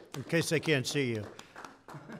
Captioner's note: applause